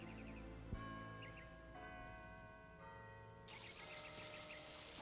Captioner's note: bell tolling